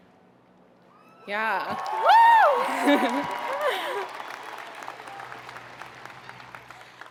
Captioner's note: audience cheering; chuckles